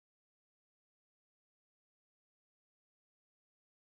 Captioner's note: none